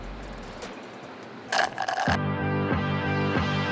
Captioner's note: slurp Sounds